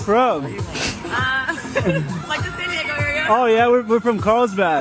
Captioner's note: laughs